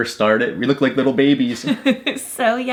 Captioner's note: laughing